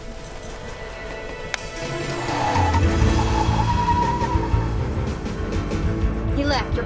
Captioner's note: dramatic music; tires squealing